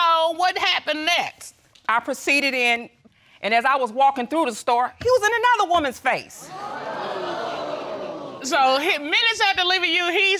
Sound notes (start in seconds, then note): 4.8 audience exclaiming